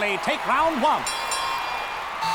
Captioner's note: dinging